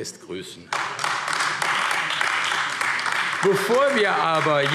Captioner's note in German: Beifall AfD